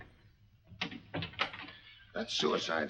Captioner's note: door closes